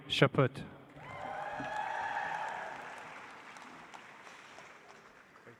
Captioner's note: audience applauds